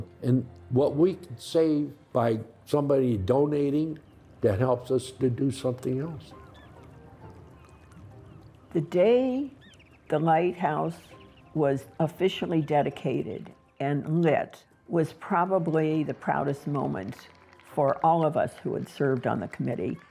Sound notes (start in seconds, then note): 6.8 bright music; 6.8 gulls crying